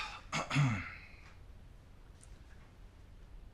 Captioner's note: Sean coughing